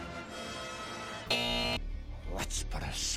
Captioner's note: buzzer